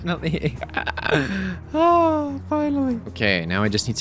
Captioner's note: laughs